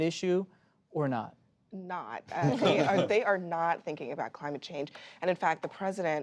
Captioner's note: laughter